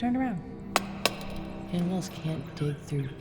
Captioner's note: torch taps